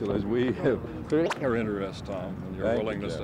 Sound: camera noise

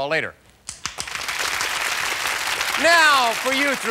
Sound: applause

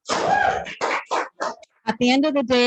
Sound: applause

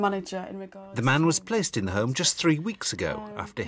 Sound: voiceover

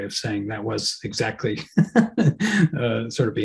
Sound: laughs

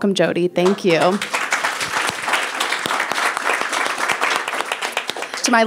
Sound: people applauding

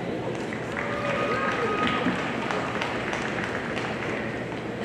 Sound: audience applauding

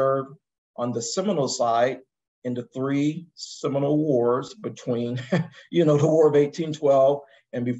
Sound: laugh

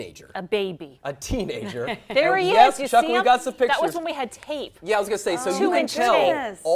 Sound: laughter

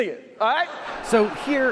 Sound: audience laughs

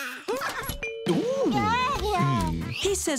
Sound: babbling

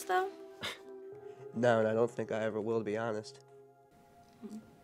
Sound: laughs

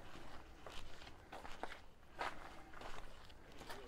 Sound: background chatter

